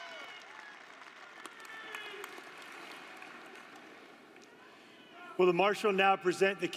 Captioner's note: applause